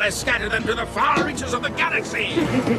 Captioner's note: laughing